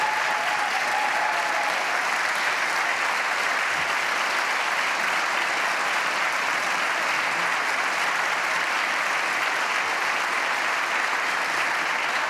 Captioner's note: applause